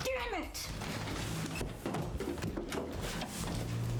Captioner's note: stumbling Noise